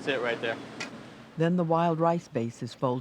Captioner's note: voiceover